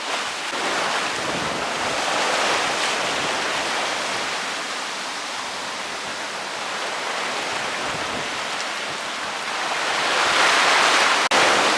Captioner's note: sea Noise